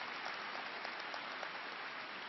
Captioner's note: applause